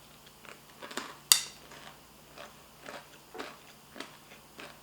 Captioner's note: crunching sounds